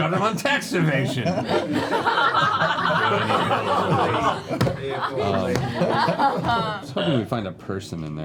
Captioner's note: laughter